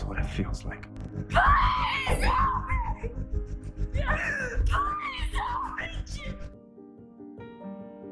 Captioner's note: shouting